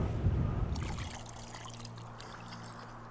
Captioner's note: liquid splattering